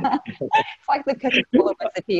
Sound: laughing

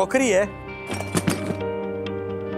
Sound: clinking

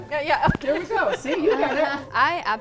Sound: laughter

